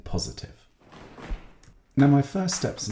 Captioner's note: stomping and clapping